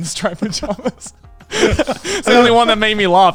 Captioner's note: laughing